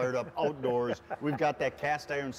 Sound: laughs

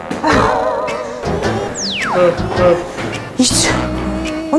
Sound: panting

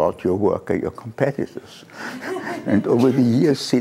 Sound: laughter

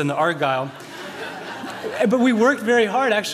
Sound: laughter

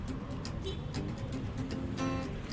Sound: horn honks

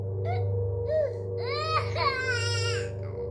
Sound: baby crying

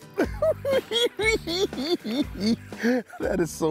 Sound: cackling

